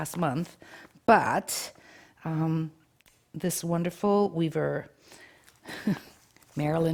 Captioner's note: chuckles